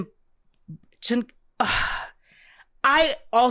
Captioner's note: sigh